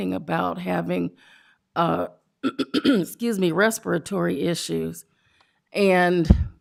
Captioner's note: clears throat